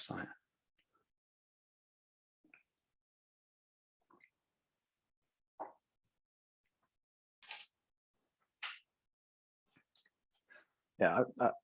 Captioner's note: silence